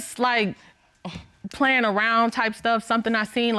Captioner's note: scoffs